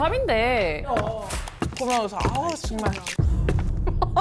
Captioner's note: footsteps that aren’t normal